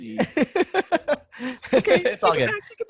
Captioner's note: laughter